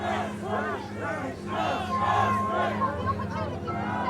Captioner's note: chant